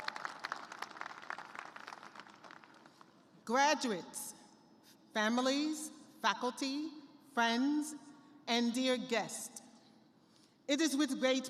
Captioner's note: applause